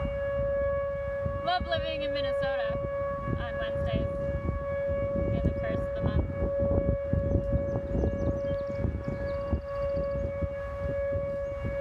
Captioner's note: sirens continue in background; sirens continue